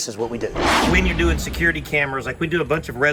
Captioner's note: intense whooshing